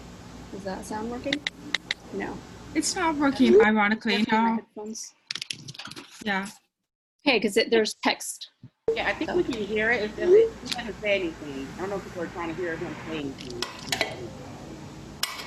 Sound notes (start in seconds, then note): 1.8 typing